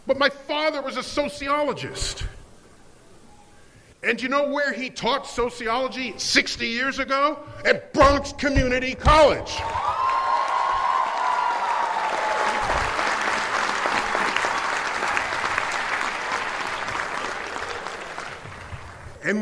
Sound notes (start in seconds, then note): 10.2 cheers and applause